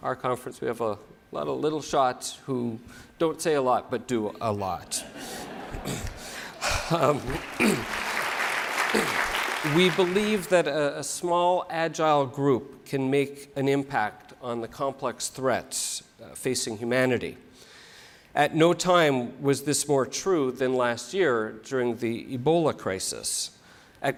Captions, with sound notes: our conference we have a lot of little shots who don't say a lot, but do a lot. [COUGH]. [APPLAUSE] We believe that a small agile group can make an impact on the complex threats facing, humanity. >> At no time was this more true than last year, during the Ebola crisis.